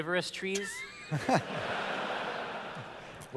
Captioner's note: laughter